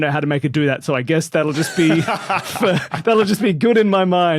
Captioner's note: laughs